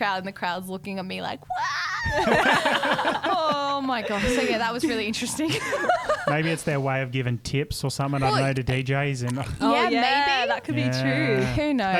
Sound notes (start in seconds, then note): 5.9 laughing together